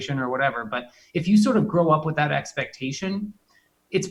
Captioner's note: laughs